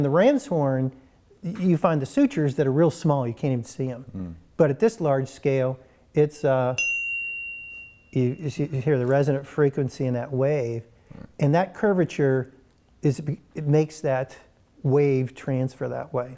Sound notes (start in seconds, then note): 6.7 bell chime